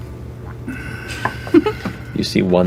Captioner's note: laughs